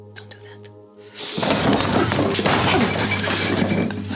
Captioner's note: table clatters